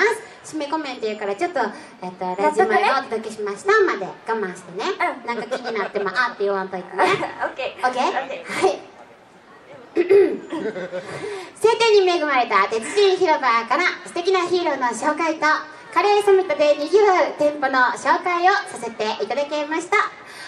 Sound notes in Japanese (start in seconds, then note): 10.0 咳払い